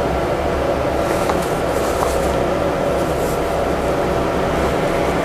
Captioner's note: folded shirt sound